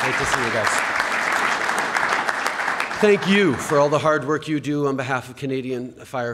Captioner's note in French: Applaudissements